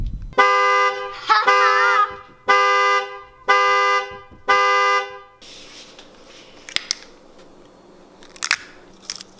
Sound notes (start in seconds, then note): 0.3 honking